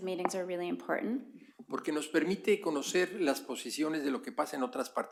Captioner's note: spanish